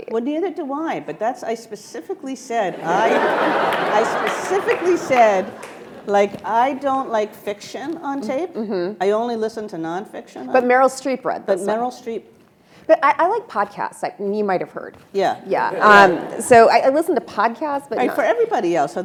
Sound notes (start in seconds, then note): 2.7 attendees laughing